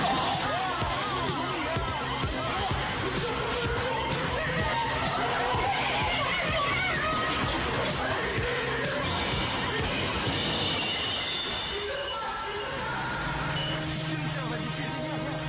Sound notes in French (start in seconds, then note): 2.0 Cris de la foule